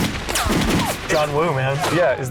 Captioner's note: gunshots fired